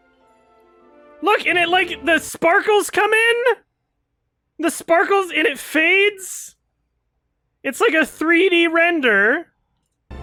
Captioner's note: raised voice throughout